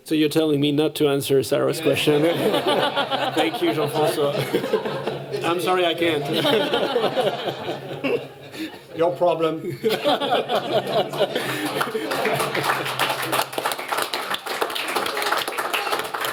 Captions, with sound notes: So you're telling me not to answer Cyrus' question? [LAUGHTER] Thank you, Jean-Francois. [LAUGHTER] I'm sorry, I can't. [LAUGHTER] Your problem. [LAUGHTER] [APPLAUSE]